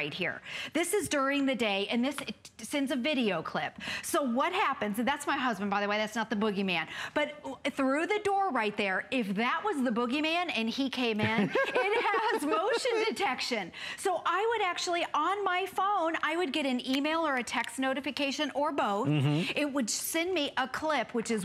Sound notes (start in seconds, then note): 11.2 laughter